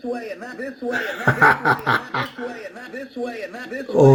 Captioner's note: laughs